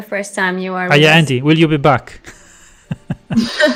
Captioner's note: laughs